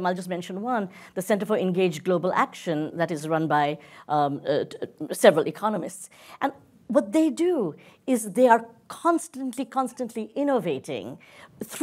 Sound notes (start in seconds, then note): none